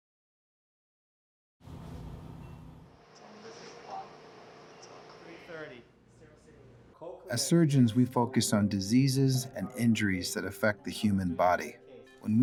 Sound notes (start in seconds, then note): 3.6 murmuring